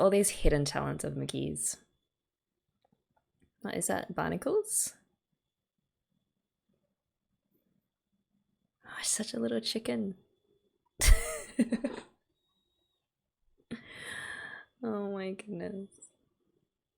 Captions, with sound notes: All these hidden talents of Mugi's. Is that barnacles? Oh, she's such a little chicken! [laughs] Oh my goodness.